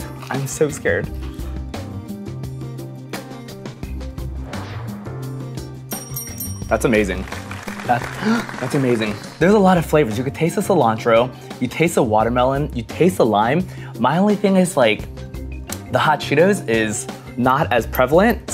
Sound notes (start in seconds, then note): 5.9 bell dinging; 7.0 applause